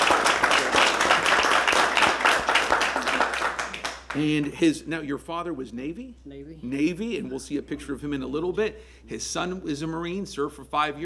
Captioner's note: applause